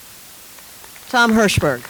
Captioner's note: audience applauds